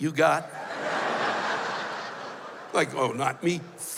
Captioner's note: laughter